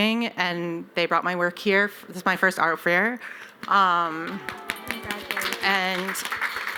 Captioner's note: applause